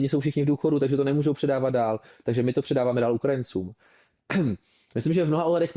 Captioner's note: clears throat